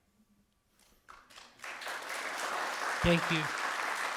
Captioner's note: audience applauding